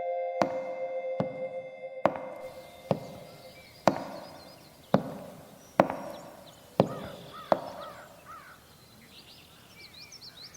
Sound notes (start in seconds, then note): 0.0 ominous music; 4.2 birds chirping